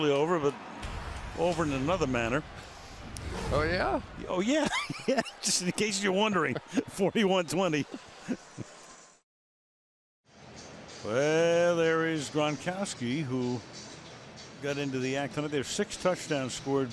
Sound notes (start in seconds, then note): 7.8 laughs